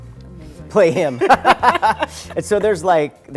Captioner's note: laughter